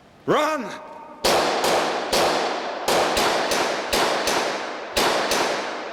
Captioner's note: gunfire blasting